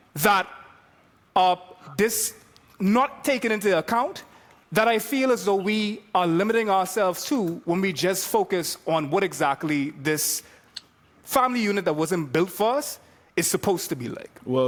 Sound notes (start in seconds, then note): none